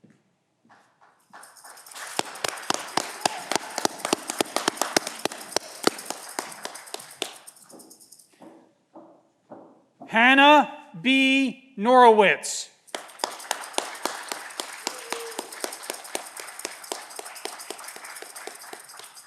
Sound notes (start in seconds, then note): 12.9 audience clapping